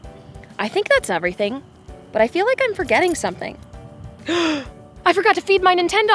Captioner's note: gasp